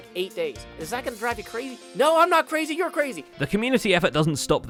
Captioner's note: fake yelling